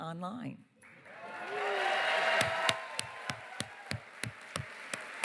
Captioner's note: cheering, applause